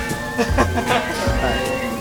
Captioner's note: laugh